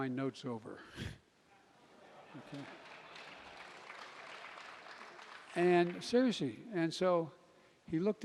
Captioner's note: laughter and applause